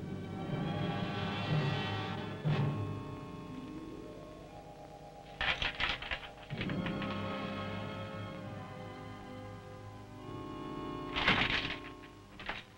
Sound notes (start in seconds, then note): 0.1 dramatic music; 5.8 chains rattling